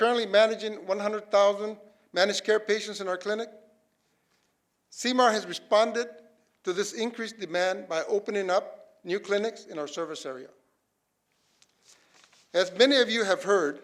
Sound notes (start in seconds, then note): none